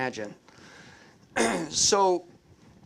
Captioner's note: clears throat